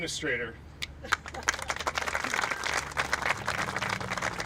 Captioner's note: applauding